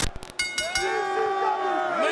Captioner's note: static crackling; bell ringing; spectators chanting "ECW!"